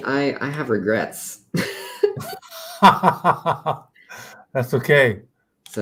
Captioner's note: laughter